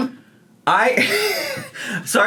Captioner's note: laughing